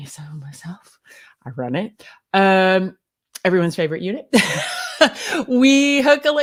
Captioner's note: laughs